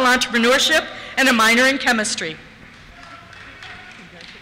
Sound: cheers

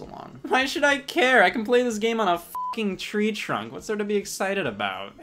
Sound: beep

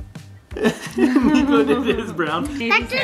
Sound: dad laughing

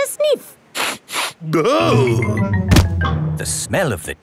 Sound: sniffs and groans

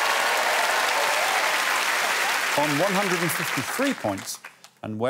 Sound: cheers and applause

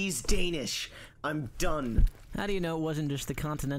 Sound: wet stomping footsteps

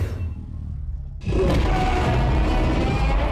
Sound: roars

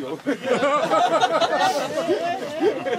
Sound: laughter

